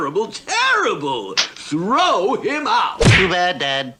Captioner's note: splat!